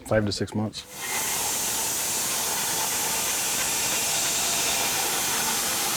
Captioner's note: saw buzzes